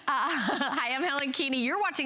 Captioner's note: laughter